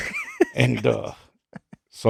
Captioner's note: laughing